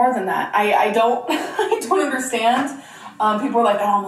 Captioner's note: laughs